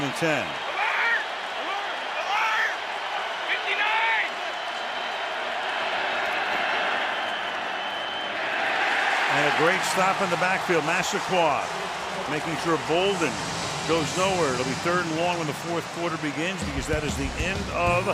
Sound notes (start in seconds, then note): 9.1 cheering